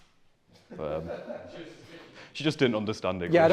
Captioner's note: laughter